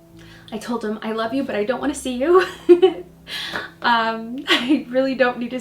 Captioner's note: laughs